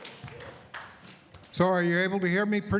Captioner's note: applause